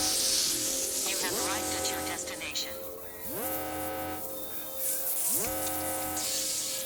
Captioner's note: automated Voice